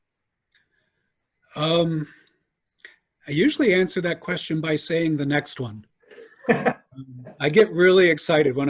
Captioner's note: laughter